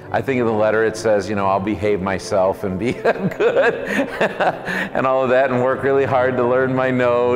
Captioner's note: laughs